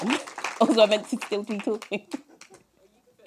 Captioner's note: chuckle